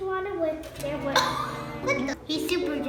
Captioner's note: gasps